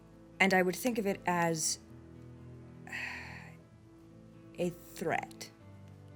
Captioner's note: sighs